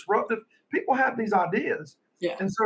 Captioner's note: laughing